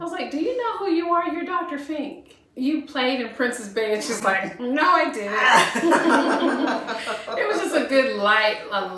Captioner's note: laughter